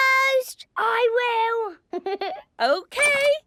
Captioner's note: Danny laughing